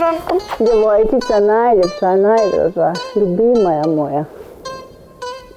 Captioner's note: speaks Serbian